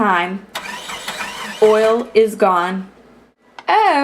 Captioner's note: sputtering noise